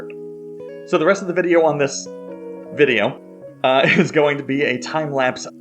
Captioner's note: laugh